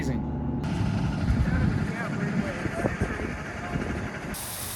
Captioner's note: machines whirring